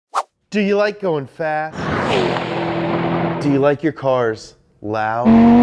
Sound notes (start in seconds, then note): 1.8 zooming; 5.2 car engine